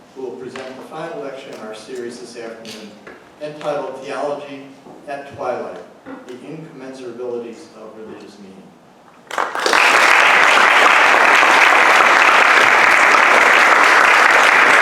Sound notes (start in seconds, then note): 9.2 audience applauds